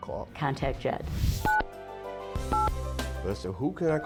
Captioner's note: phone beeps